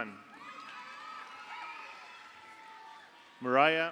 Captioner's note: audience cheers; audience applauds